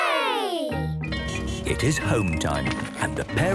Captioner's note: bell ringing, beeping